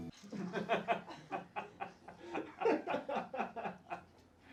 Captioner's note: friends laugh